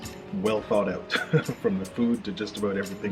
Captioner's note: laughs